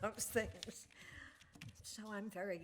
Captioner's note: laughs